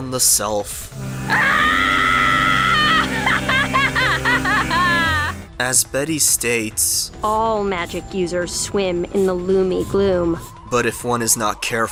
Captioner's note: Betty laughs maniacally